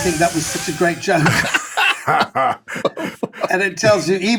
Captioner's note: all laughing